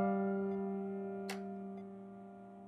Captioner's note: Door opens